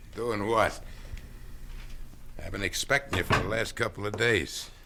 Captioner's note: scoffs